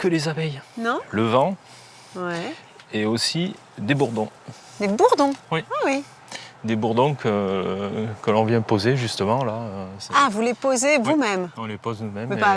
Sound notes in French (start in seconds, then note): none